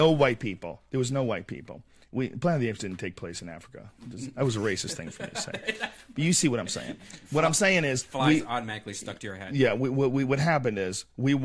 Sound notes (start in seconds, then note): 4.7 laugh